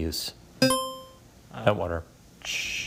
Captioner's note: buzzer chimes